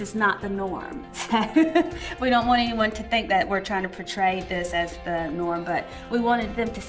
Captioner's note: laugh